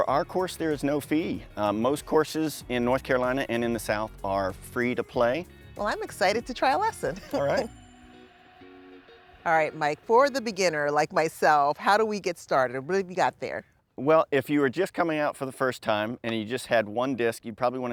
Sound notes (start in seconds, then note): 6.8 laughs